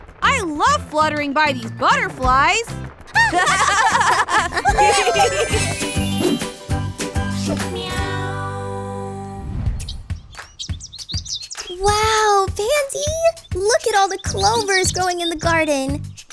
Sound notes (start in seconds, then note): 3.1 laughing; 4.5 transition tones; 9.8 tweeting; 10.2 rhythmic music